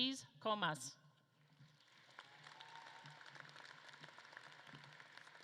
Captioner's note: audience claps